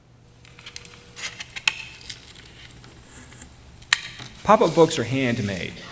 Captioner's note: paper crackling